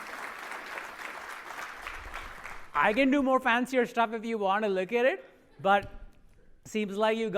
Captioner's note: applause